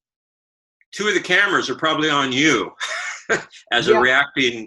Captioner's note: laughs